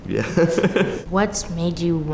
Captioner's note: laughter